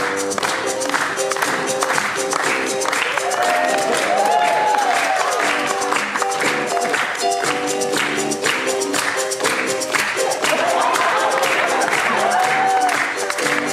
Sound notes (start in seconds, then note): 3.0 audience cheering; 10.2 audience laughing